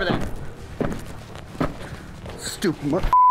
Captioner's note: boots thudding; beep